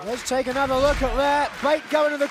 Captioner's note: clapping